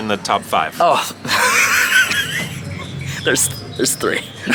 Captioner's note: laughs